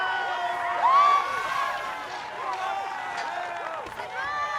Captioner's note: cheering